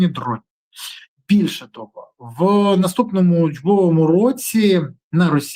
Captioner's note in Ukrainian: сопіння